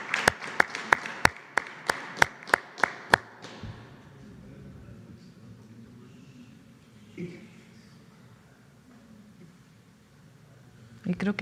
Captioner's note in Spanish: aplausos